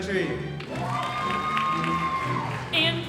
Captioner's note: audience cheering and applauding